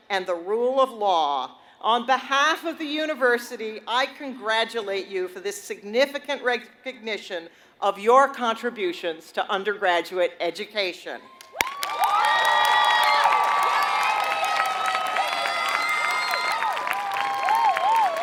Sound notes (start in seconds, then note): 11.3 applause